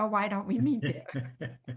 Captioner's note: chuckle